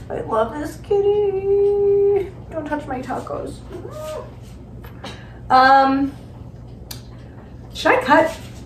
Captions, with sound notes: I love this kitty. Don't touch my tacos. [Felix softly meows] Should I cut?